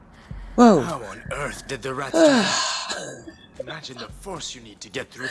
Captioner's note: chuckles